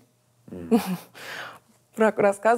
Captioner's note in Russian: Мария смеется